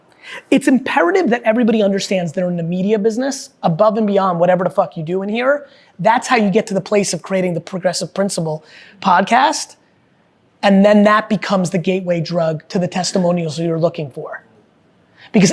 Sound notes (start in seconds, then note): none